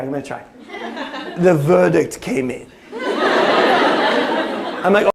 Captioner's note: british accent